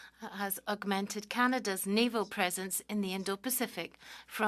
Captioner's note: speaking French